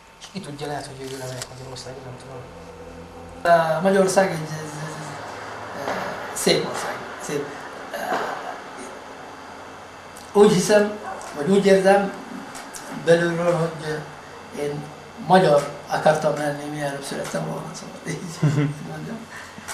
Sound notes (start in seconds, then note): 18.2 laughs